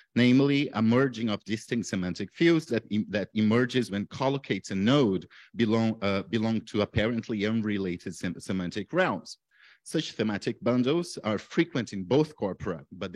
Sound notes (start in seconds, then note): none